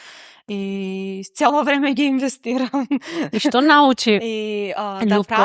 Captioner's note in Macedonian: смеа